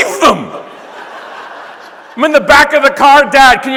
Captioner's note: audience laughing